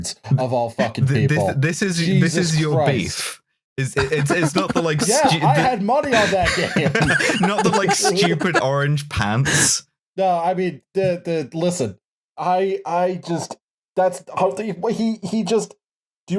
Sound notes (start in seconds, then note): 3.9 laughter; 9.6 laughter